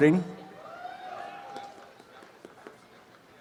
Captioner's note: applause and cheering